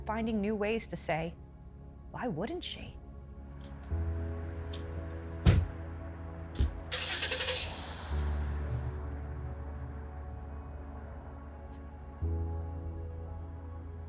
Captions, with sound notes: And I kept finding new ways to say, "Why wouldn't she?" (soothing music) (engine revving) (soothing music continues)